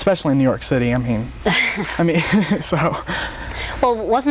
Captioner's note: both laugh